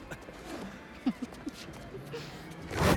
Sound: laughs

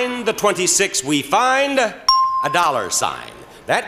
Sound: bell rings

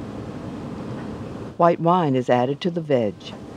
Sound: voiceover

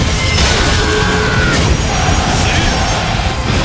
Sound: KO Scream

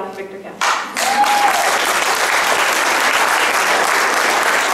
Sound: audience clapping

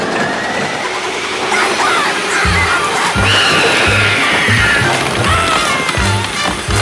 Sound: screams

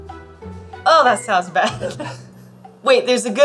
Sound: instrumental background music; laughs

